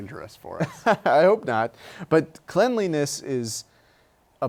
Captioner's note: laughs